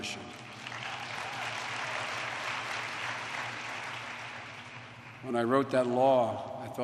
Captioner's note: applause